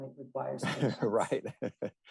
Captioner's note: laughter